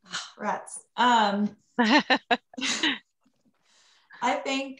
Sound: laughs

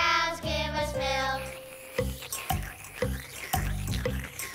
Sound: slurping

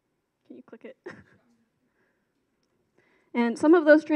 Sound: chuckles

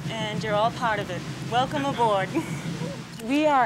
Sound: chuckles

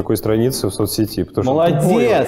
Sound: voice-over

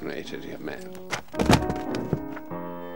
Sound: sound of tumbling books landing on the floor

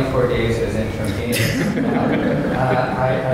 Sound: laughter

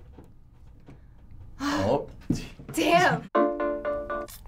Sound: sighing; pop ballad

